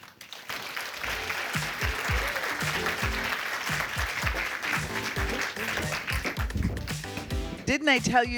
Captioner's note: applause